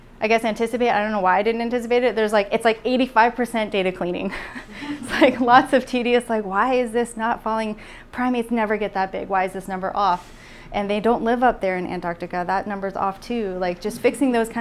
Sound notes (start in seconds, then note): 4.3 laughs